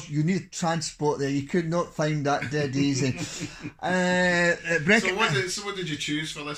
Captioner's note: laughs